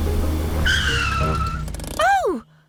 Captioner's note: tires screech